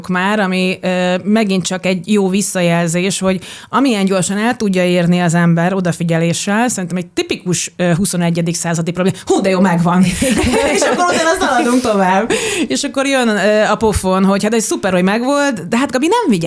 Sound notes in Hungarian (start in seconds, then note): 10.0 nevetés